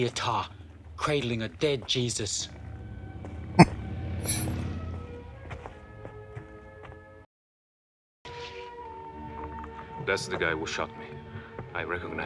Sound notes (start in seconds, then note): 3.2 chuckling